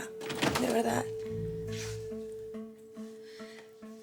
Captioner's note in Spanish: Ruido al abrir la puerta